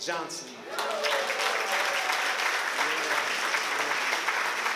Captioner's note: applause